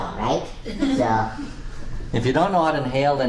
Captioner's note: class chuckles